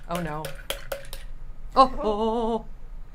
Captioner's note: tapping jar